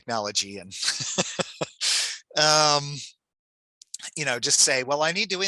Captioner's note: chuckles